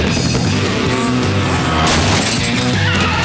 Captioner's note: buzzing